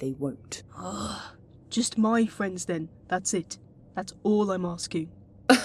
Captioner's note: frustrated groan